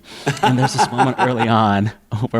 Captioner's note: laughter